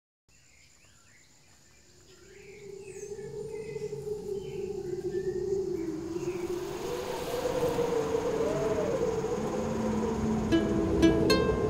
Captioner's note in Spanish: ambiente de bosque